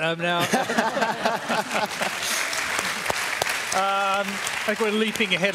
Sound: laughter and applause

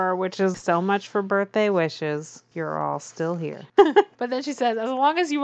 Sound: laughs

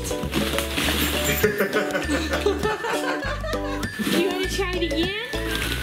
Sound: laugh

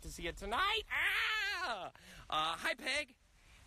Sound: Rob screams excitedly

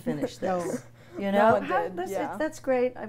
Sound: laughs

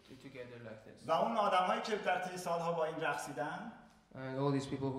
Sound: speaking in farsi

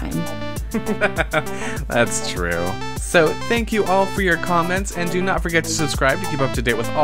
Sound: laughs

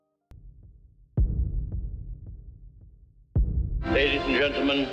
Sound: dramatic thudding

